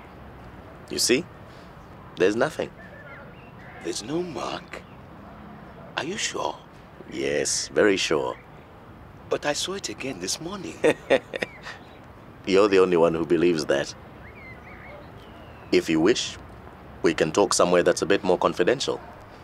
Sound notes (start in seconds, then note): 10.4 laughs